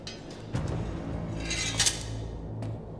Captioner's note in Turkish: Kılıç sesi